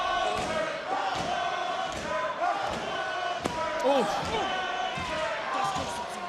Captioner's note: crowd chants "walter"